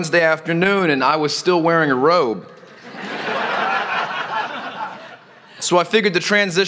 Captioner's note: laughter